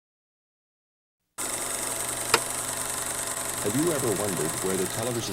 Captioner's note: projector clicking